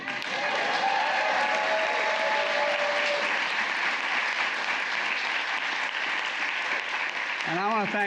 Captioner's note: applause